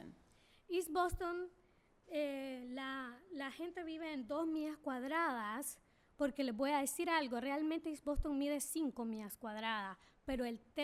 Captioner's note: speaking spanish